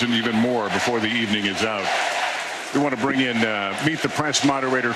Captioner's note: applause